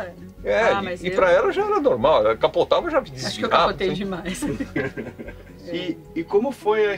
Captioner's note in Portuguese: Risos